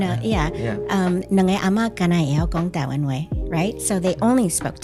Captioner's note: Taiwanese